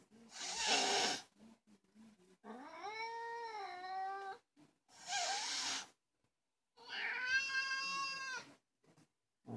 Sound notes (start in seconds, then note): 0.5 hisss; 5.0 hisss; 6.8 meauuuw